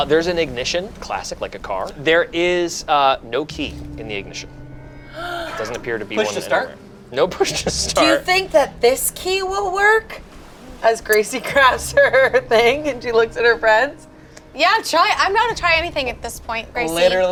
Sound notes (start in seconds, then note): 5.1 gasps